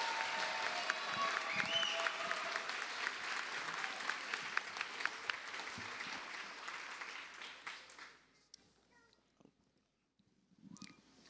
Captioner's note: cheers and applause